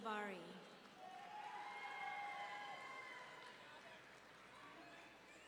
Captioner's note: audience cheering